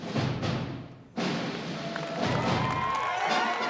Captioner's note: applause and cheering